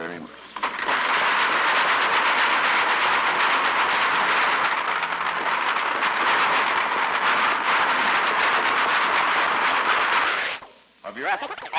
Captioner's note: applause